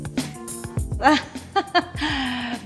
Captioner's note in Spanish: risas